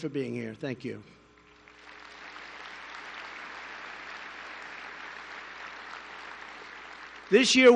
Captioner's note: applause